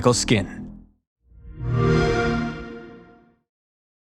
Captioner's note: xbox sound